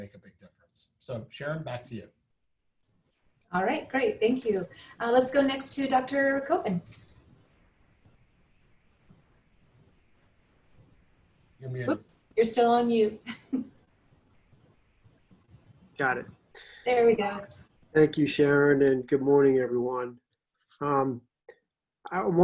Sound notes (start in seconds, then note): 17.9 muted